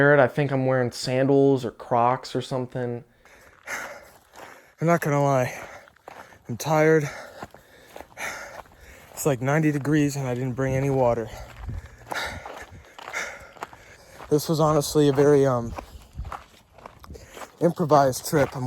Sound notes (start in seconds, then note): 3.5 panting